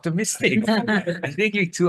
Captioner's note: attendees laughing